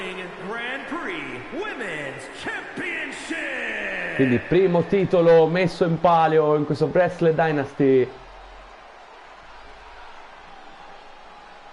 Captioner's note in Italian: Applauso